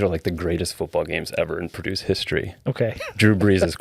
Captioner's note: laughing